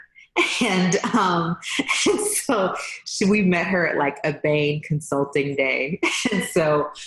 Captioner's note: laughs